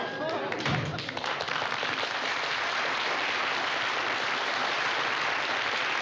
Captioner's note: applause